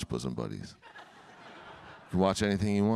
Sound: audience laughing

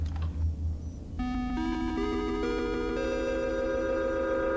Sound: funky little system booting sound

